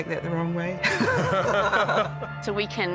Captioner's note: both laugh